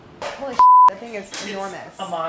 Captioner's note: beeping